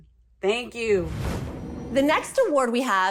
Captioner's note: transition sound